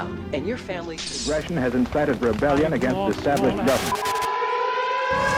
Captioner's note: television